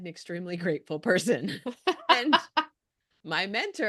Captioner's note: chuckles